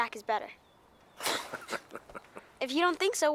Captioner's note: Heep laughing